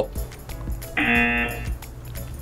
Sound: buzzer

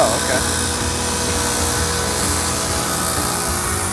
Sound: buzzing

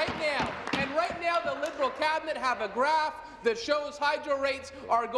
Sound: applause

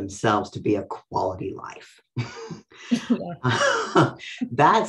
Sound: laughs

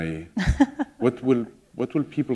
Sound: laughter

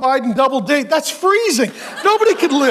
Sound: congregation laughing

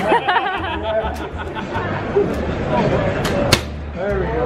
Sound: laughing

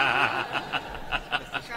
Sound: laughing

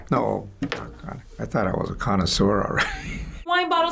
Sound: chuckles

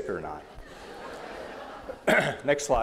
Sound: laughter

